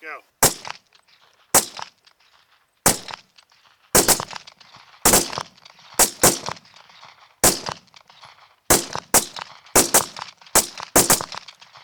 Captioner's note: gun shots